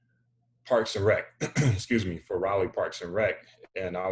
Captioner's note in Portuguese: limpa a garganta